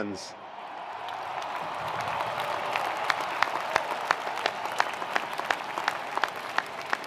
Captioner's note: attendees cheering; attendees applauding